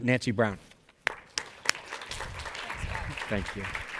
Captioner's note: audience applauds